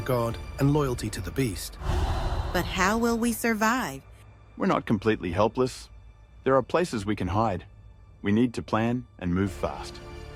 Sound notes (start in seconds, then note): 1.8 air whooshes